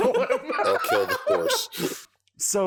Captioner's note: giggles